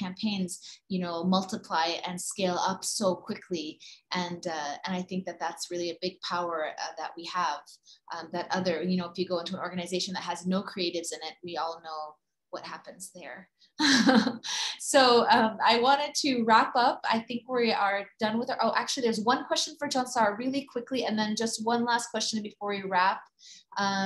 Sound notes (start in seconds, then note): 13.8 laughs